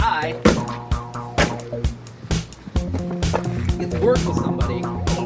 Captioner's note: upbeat music; door closing